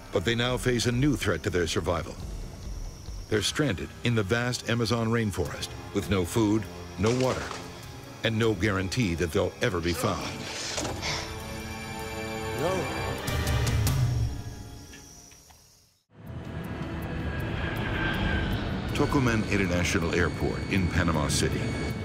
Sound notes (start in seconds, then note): 11.4 tense music; 16.1 dramatic music; 16.6 plane engine whirring